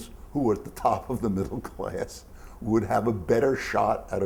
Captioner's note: chuckles